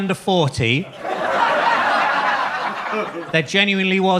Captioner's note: audience laughs